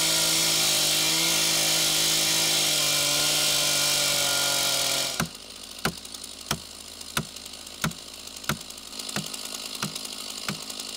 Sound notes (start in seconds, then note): 5.4 hammer clangouring